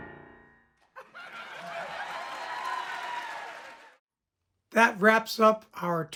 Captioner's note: audience applauding